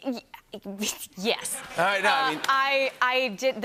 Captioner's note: laughter